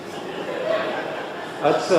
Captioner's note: laughter